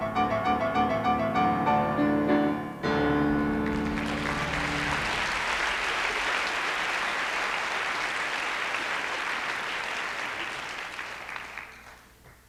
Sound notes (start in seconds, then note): 3.6 applause